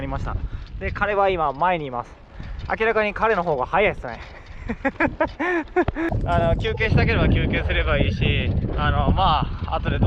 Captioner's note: laughs